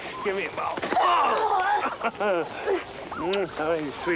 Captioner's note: grunts and laughs